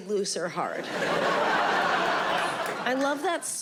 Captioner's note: audience laughing